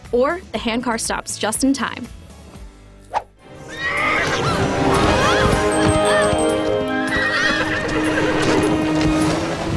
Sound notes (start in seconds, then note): 3.6 horse neighing; 3.6 screaming